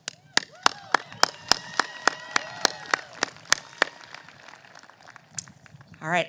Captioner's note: applause